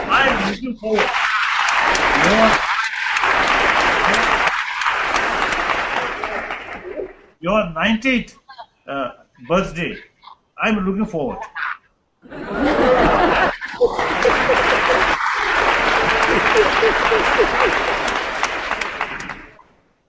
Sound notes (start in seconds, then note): 0.8 applause; 12.8 applause